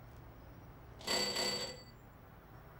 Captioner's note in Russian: Звонок в дверь